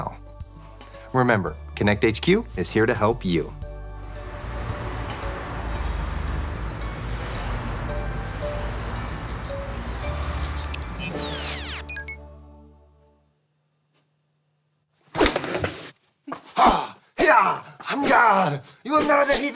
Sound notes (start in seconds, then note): 3.9 cars passing; 10.0 electricity whirring